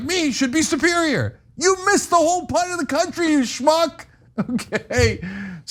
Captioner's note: laugh